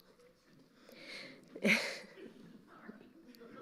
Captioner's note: chuckling; audience laughing